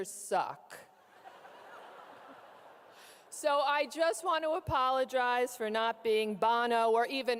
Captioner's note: audience laughs